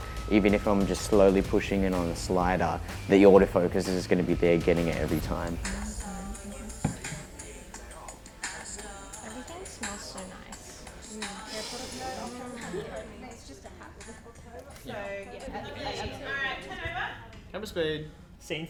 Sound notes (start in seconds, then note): 12.3 indistinct chatter